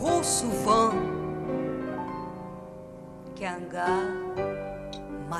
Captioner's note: speaking French